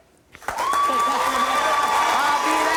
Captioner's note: cheering